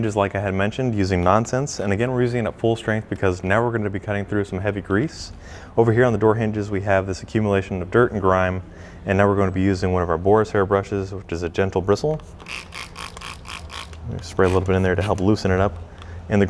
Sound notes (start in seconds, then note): 12.7 bottle squeaking